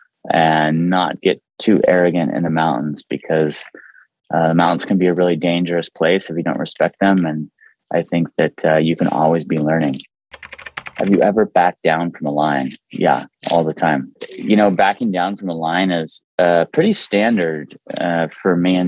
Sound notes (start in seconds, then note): 10.3 keyboard clicking